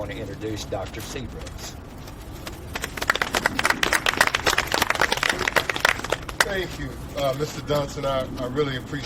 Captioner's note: audience clapping